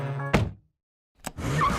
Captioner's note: car door shuts; tire squealing